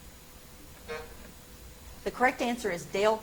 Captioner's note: timer buzzes